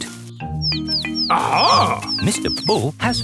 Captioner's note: chirping